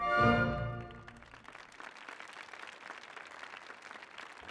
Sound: applause

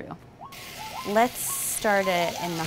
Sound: bacon sizzles

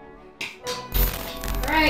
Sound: hands slapping

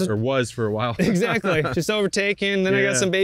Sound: both laugh

